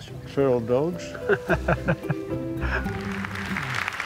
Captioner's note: chuckles